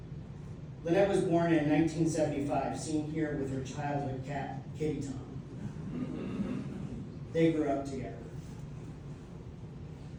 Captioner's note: laughter